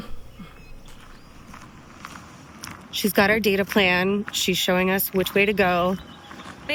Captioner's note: hoots